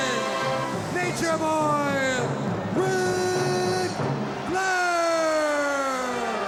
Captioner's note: crowd booing